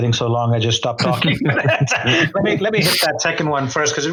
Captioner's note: laughs